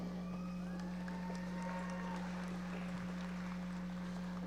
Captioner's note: audience applauding